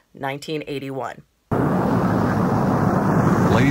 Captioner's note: sound effects: rocket blasting off